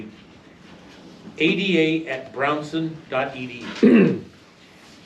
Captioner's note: male audience member coughs